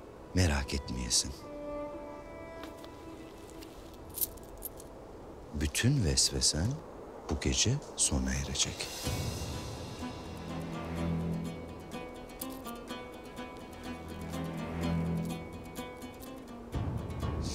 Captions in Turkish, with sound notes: Merak etmeyesin. (Sikke sesi) Bütün vesvesen bu gece sona erecek. (Müzik - Gerilim)